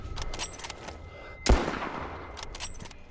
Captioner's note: gun bangs